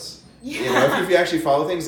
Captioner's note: laughs